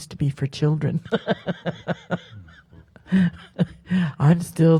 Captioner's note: laughs